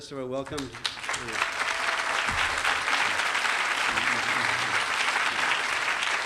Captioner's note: clapping